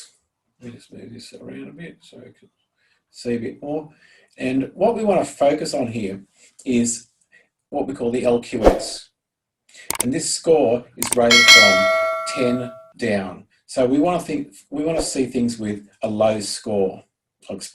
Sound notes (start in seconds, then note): 11.0 clicking; 11.0 bell ringing